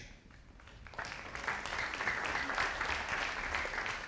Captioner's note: audience applauding